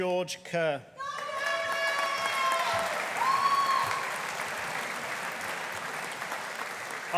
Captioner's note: audience applauding